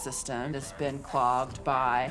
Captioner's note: radio squawking